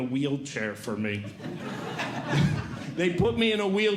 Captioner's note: audience Laughing